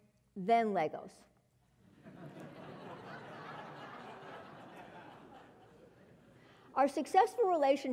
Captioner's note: laugh